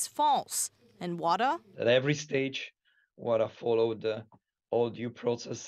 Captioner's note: speaking alternate language